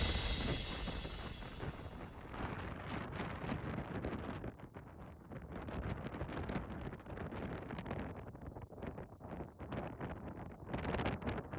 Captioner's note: wind blowing